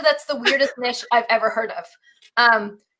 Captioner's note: laughing